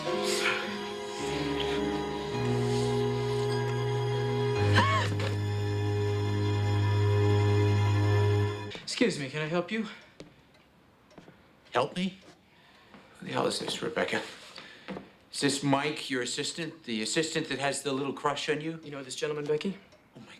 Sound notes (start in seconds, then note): 0.1 somber music; 5.0 Rebecca gasps